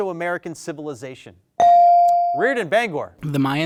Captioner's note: bell dings